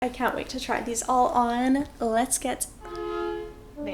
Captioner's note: honk